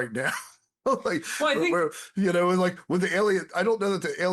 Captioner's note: laughs